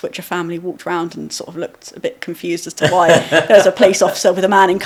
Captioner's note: laughing